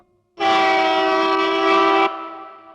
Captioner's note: train horn blares